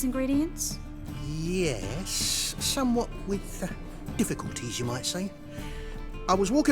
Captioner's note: hesitantly